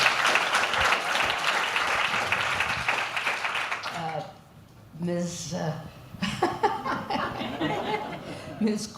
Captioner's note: applause